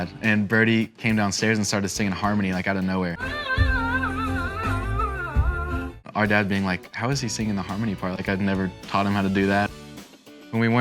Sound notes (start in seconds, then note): 3.4 vocalizing